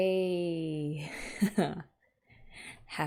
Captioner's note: laughs